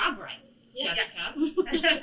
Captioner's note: laughter